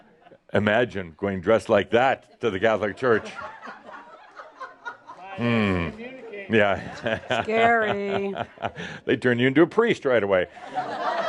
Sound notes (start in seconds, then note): 3.3 some laughter; 5.2 chuckles